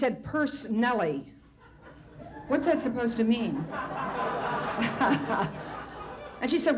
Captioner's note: light laughter, get heavier; Tomlin laughs